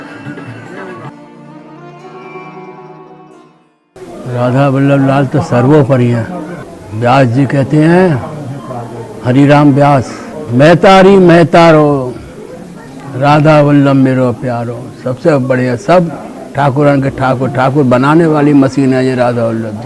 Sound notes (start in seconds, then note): 11.3 recites from scriptures